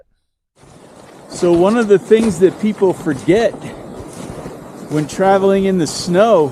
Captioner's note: snow crunching